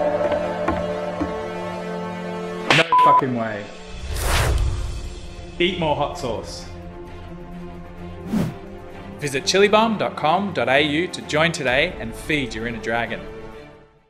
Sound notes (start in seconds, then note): 0.0 dramatic music; 0.1 footsteps approaching; 3.8 swooshing sound; 6.8 dramatic music; 8.2 swooshing sound